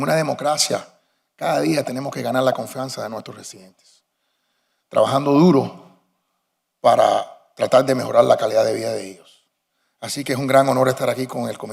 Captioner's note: speaking spanish